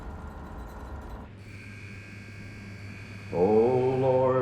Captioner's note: prison gate buzzer sounding